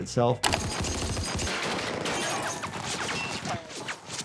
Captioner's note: gunshots ring